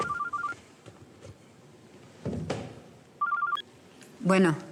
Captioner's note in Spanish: suena celular